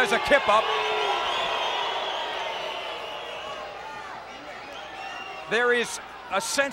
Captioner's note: applause